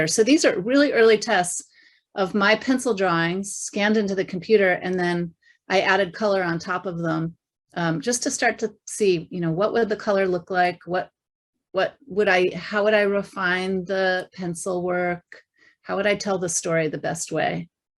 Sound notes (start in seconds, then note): none